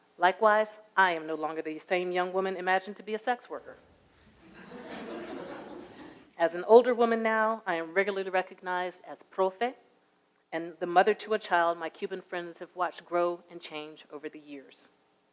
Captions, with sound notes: Likewise, I am no longer the same young woman imagined to be a sex worker. [audience laughs] As an older woman now, I am regularly recognized as profit and the mother to a child my Cuban friends have watched grow and change over the years.